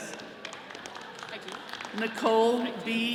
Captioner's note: attendees clapping